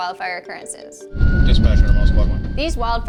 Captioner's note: sirens